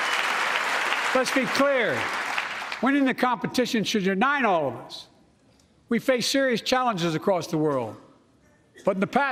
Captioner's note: applause